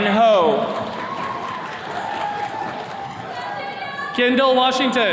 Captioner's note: attendees clapping